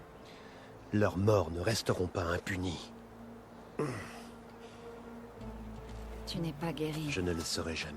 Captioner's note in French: grognement